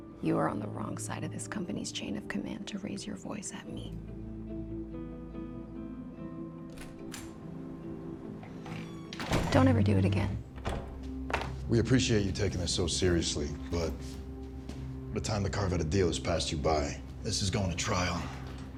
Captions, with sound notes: You are on the wrong side of this company's chain of command to raise your voice at me. [TENSE MUSIC] Don't ever do it again. [CELLPHONE THUDS] We appreciate you taking this so seriously, but the time to carve out a deal has passed you by. This is going to trial.